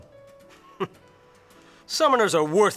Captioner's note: scoffs